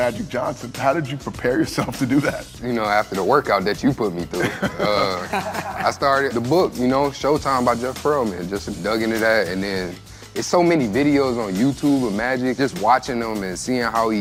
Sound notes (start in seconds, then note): 4.3 laughter